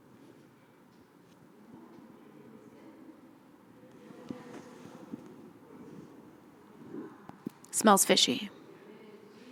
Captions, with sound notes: [silence] Smells fishy.